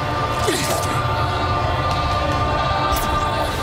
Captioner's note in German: Schwerterrasseln